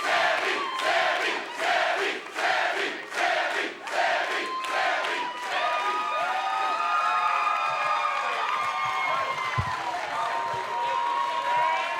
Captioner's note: fans chanting